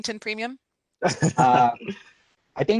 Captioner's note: laughing